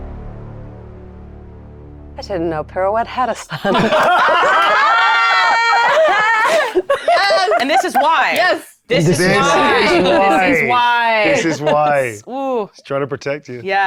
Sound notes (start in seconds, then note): 3.4 players laughing